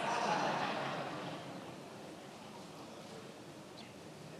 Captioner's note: many laughing